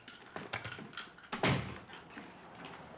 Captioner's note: door closing